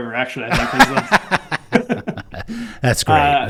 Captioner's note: laughing